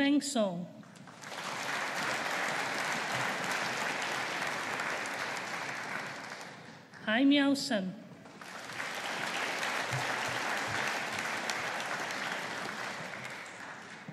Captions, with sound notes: Bofeng Song. (AUDIENCE APPLAUDING) Haomiao Sun. (AUDIENCE APPLAUDING)